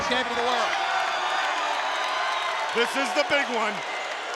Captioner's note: audience cheering